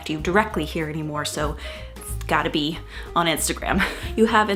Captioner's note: laughs